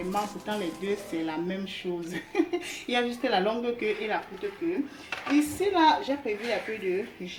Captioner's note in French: rires